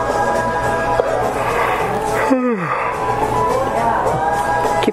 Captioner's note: yawn